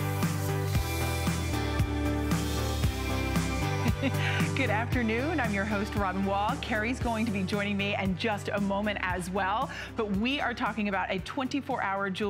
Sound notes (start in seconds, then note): 3.8 laughter